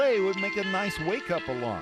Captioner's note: sound of iPhone ringtone